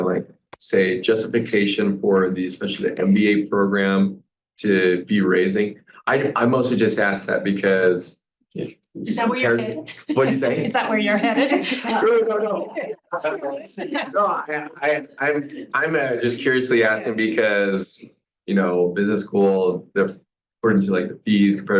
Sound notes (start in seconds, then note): 14.4 overlapping chatter